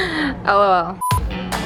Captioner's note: beep